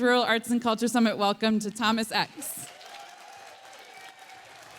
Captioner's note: applause